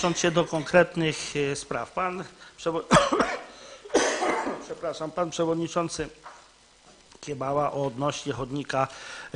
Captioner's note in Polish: kaszel